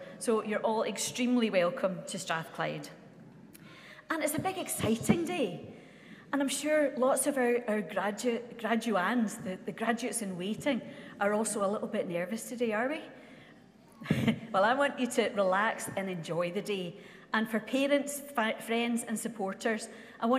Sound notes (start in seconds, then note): 14.1 laughs